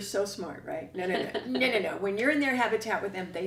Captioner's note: laughter